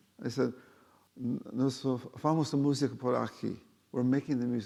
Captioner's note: speaking foreign language